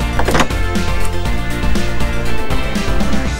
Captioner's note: door opening